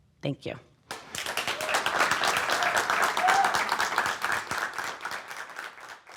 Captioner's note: audience cheering and applauding